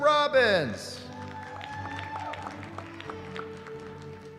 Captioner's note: cheering